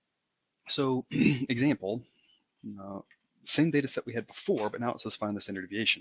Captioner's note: cough